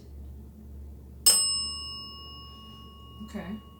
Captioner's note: bell dings